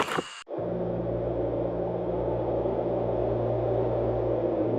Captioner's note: wind howling